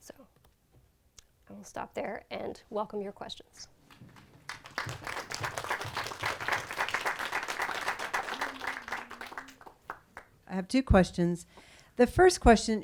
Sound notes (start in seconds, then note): 4.2 audience applauds